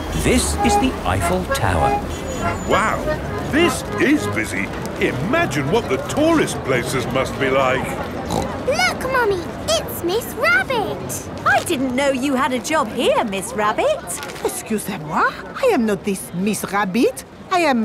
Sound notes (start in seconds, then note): 8.2 snorts